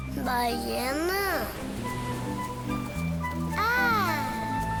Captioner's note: speaking foreign language